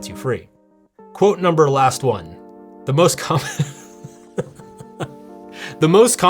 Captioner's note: laughing